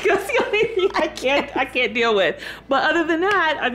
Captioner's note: laughing